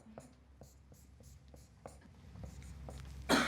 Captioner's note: marker writing